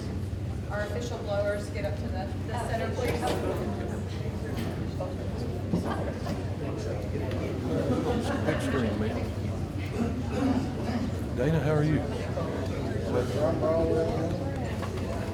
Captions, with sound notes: - Our official blowers, get up to the the center please. (speaking faintly) - Dana, how are you?